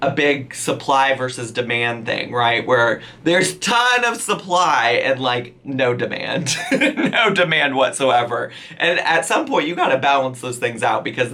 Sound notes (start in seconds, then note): 6.4 laughs